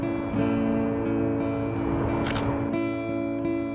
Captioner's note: camera shutter clicks